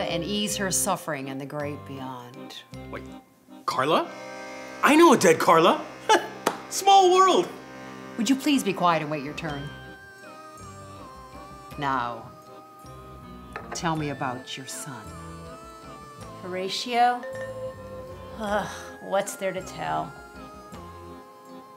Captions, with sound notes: and ease her suffering in the great beyond. - What, Carla? I know a dead Carla, (laughs) small world. - Would you please be quiet and wait your turn? Now, tell me about your son. - Horatio? Hmm, what's there to tell?